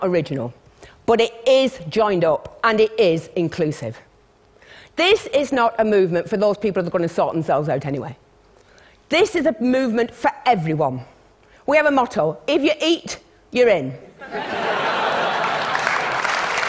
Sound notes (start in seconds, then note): 14.2 laughter; 15.3 applause